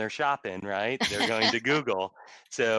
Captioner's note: laughter